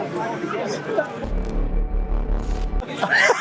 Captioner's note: cool outro noises?; laughs